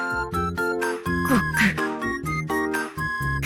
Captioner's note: gulp